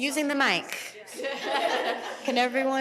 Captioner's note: chuckling